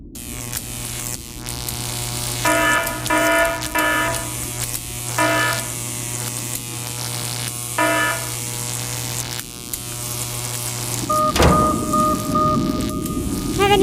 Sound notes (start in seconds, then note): 0.1 electricity arc sound; 5.2 beep; 11.0 alarm blares; 11.0 alarm, thud as they hit the ceiling